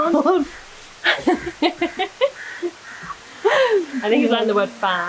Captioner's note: laughter